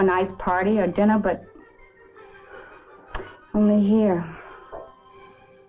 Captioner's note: breathes uneasily